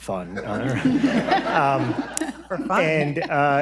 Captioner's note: audience and panel laughs